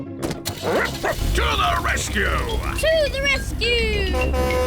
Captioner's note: barks; horn blares